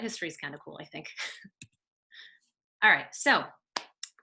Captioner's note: chuckles